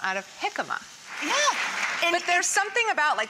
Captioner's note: applause